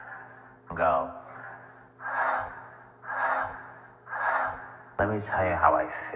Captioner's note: inhaling air; inhaling and exhaling air